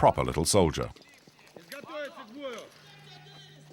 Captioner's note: Russian spoken audio